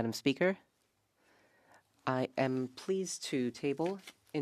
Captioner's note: speaking French